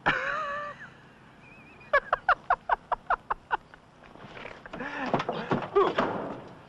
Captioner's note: laughing